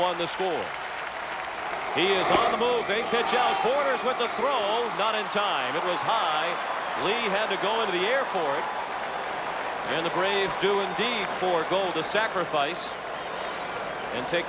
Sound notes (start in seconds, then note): 0.0 applause; 1.7 cheering and Applause